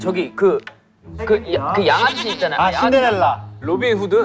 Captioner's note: mispronunciation